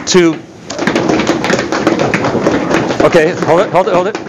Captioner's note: feet stomping